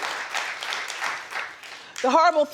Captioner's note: crowd applause